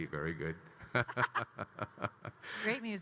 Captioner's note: Kyle and Anne laughing